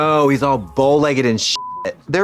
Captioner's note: beep